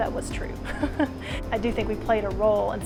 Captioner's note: laughs